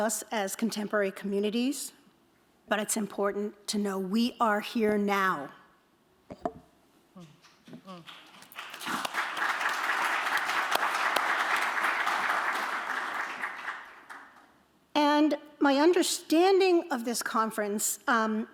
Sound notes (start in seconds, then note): 7.9 applause